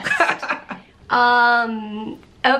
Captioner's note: laughs